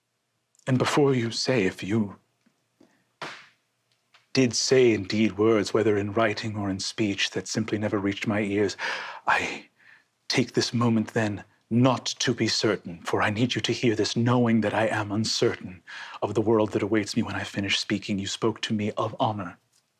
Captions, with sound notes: And before you say if you Did say, indeed, words, whether in writing or in speech that simply never reached my ears (inhales) I... take this moment then, not to be certain. For I need you to hear this knowing that I am uncertain (inhales) of the world that awaits me when I finish speaking you spoke to me of honor.